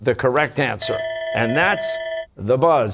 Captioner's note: bell ringing